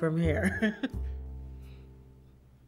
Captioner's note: chuckles